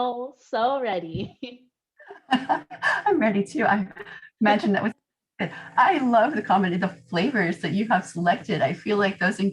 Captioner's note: laughter